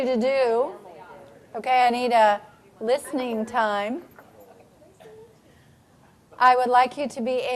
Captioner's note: general chatter